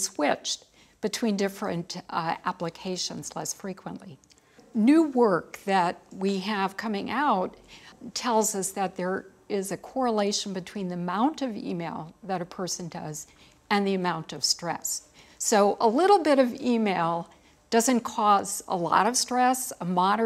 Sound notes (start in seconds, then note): none